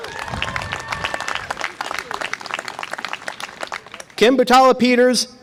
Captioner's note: audience applause and cheer